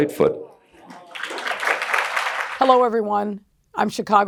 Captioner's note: applause